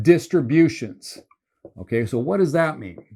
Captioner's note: marker squeaking